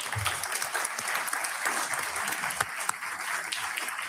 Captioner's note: audience clapping